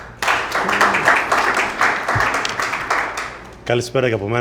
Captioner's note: applause